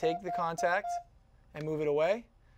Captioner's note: beeping